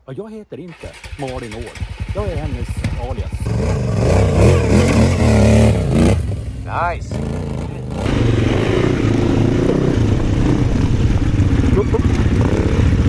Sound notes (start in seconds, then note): 3.4 engine revving; 7.4 engine revving; 10.3 motor running